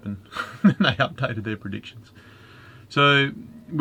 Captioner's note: laughing